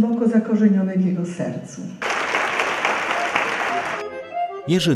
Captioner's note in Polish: aplauz